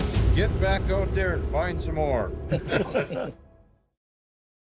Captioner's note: laughs